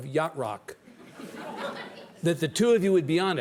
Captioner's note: audience laughs